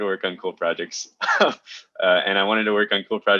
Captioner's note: chuckles